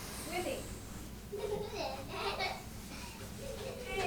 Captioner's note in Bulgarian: се смее